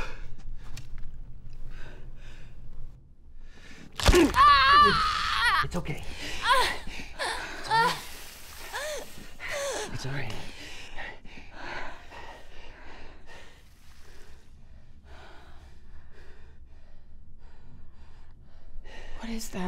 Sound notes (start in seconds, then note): 3.9 bone cracks; 4.0 yells in pain; 7.9 woman gasping in pain